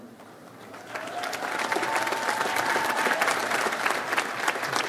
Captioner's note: audience applauds